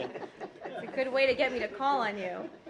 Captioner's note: laughter